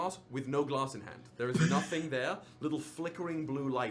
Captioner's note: laughter